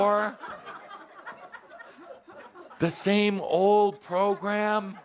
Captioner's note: laughter as Kuthumi stands up with each phrase